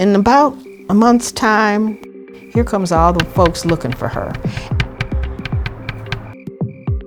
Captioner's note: door thudding; tense music